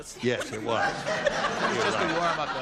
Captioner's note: laughter